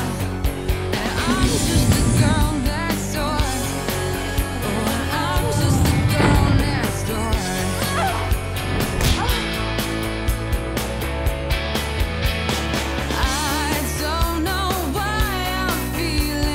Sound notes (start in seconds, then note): 5.4 grunts; 5.4 thud; 7.7 grunts; 7.9 thud